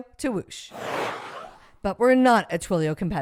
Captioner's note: whoosh sound effect